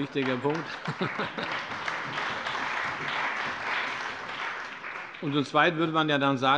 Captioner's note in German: Allgemeiner Beifall